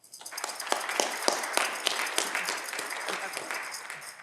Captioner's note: audience clapping